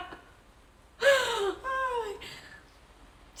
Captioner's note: sigh